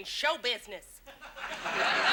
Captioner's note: audience laughs